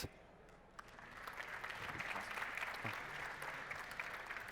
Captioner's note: applause